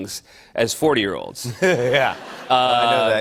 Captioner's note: laughter